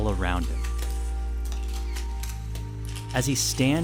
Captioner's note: soundbite of camera shutters clicking